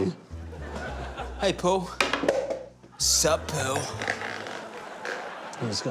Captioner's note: laughter